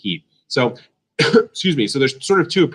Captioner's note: coughs